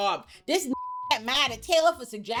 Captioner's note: beep